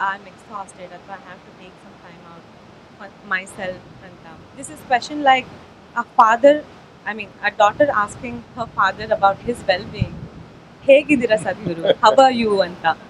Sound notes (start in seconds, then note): 9.7 speaks in Kannada – not transcribed